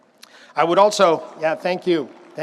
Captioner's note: audience applauds